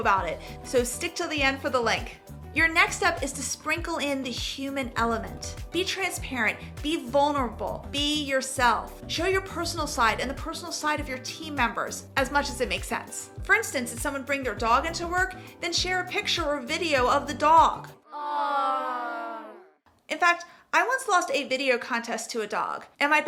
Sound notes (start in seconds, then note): 18.0 kids cooing